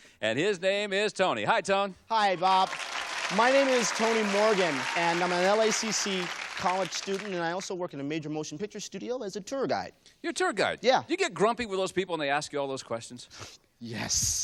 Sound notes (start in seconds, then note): 2.3 applause